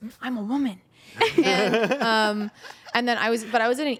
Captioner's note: everyone laughs